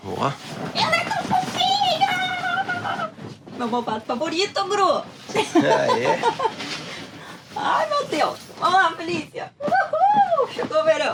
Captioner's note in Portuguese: risadas